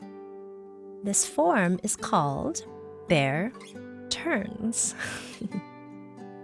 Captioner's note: laughs; uplifting guitar music